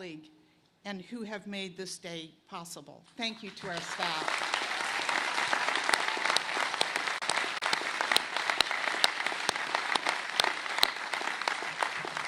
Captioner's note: applause